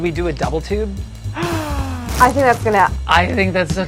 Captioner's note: gasping